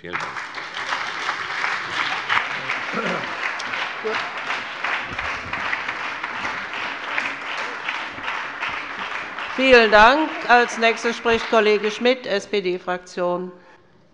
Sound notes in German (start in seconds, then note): 1.7 Beifall bei der FDP, der SPD und der LINKEN